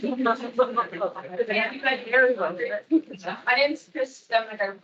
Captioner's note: attendees chattering